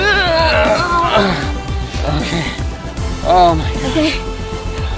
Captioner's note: both grunting